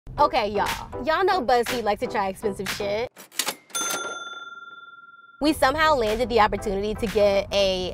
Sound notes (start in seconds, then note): 3.2 cash register rings